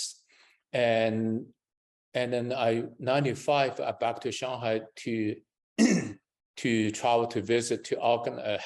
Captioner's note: coughs